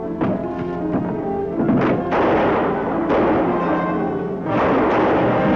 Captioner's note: gunshots